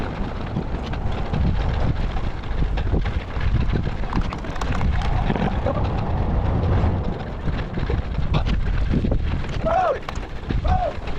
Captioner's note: wind blowing